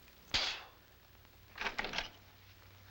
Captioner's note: spitting